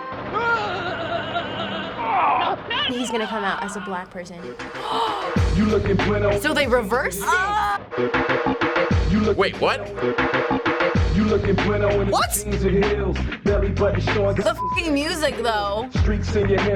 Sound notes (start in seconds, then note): 0.2 man calls out in pain; 4.5 gasps; 5.3 rap music; 10.6 rap music